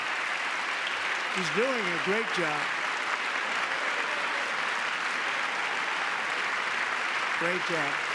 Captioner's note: applause